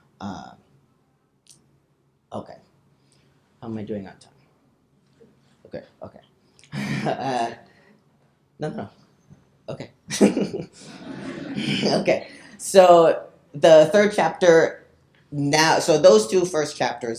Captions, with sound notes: Okay, how am I doing on time? Okay, okay. (chuckles) No, no, no, okay. (chuckles) (people laughing) Okay, so the third chapter now, so those two first chapters